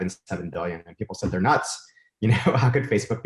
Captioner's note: chuckles